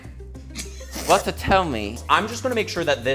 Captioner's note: crew snickering